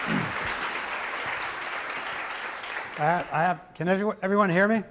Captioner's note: audience applauding